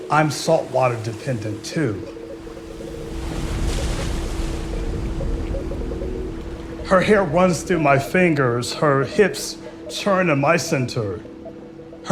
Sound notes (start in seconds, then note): 3.4 waves crashing; 5.8 dramatic music